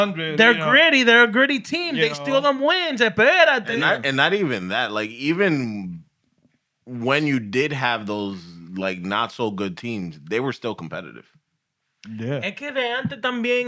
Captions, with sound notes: They're gritty. They're a gritty team. They still don't win. (Speaking Spanish) And not even that. Like even when you did have those like not so good teams, they were still competitive.